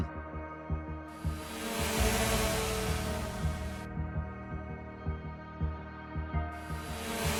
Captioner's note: drones buzzing; tense music